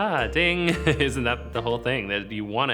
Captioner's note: laughs